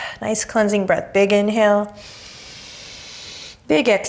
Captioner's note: deep breaths; deep breath